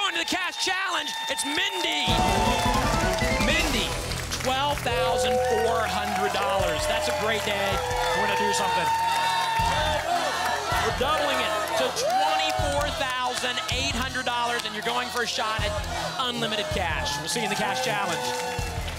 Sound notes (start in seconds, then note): 3.8 audience applause; 9.9 double chant